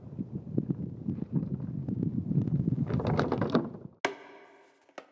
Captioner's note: wind, the antenna drops on wood floor; tick